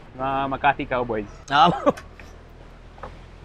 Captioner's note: chuckles